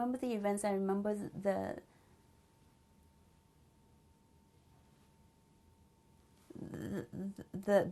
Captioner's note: pauses for 6 seconds